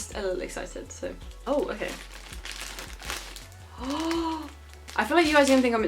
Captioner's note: shocked noise